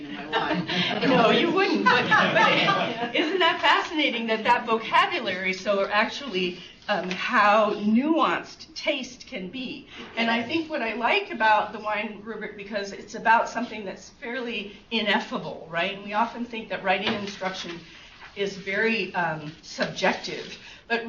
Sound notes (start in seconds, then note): 1.6 laughter